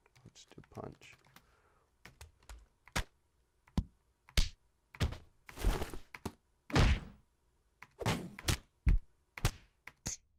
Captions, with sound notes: Just do a punch. (plays punching sounds)